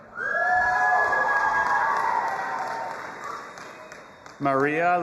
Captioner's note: audience applauding and cheering